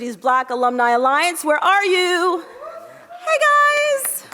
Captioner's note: audience cheers